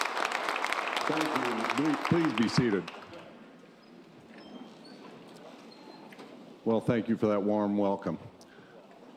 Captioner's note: applause continues